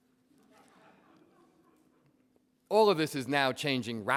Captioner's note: audience laughs